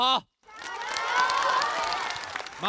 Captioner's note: cheers